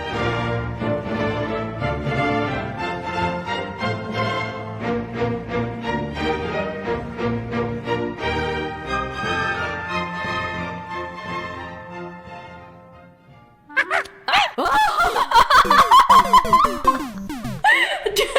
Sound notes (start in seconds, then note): 13.7 happy monkey noises; 14.3 screaming